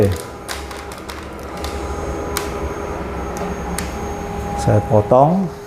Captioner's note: tripod noise